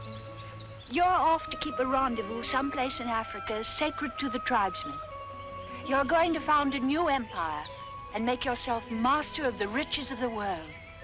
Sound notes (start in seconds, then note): none